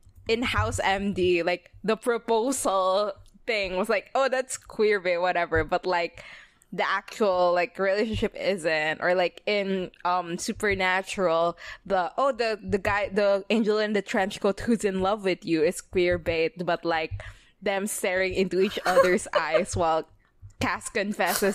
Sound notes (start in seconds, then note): 18.6 laughs